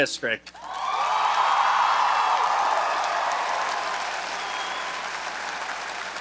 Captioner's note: audience cheering and applauding